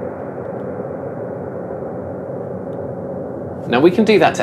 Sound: reverberation

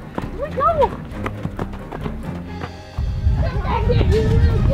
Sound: footsteps

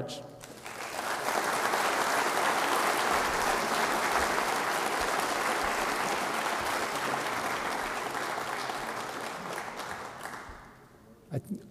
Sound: applause

